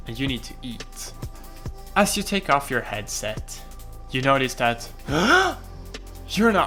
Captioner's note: extreme gasp